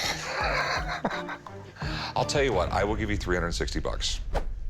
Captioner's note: laughs